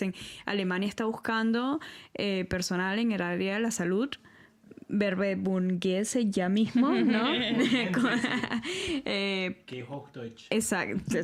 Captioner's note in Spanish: risas